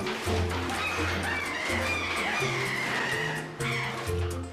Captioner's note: monkey chattering